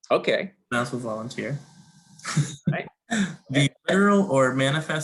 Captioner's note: laughs